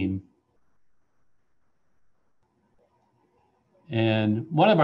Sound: silence

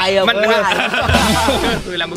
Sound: laughs

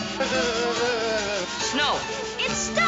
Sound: shivering

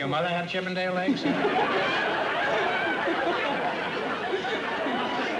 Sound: laughter

